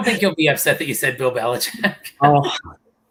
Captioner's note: laughter